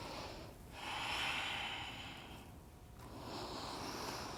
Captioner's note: breathing